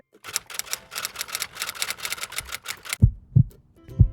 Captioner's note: keyboard clicking